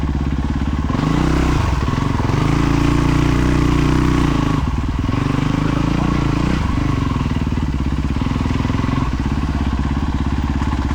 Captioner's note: engine revving